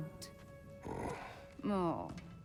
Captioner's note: grunt